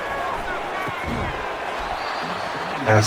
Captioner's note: crowd Noises